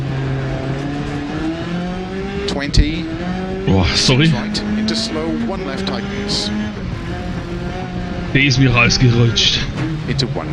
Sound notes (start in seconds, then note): 2.6 burps